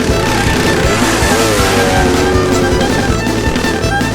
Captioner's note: engines buzz